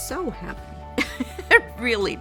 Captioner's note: laughing